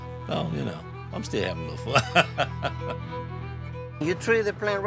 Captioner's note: laughing